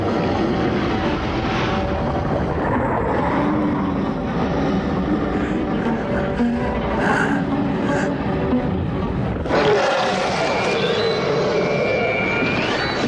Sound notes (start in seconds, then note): 9.4 roar